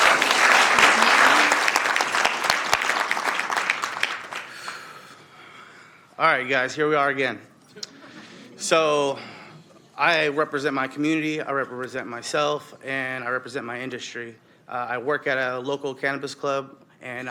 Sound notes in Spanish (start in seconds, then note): 3.3 Aplausos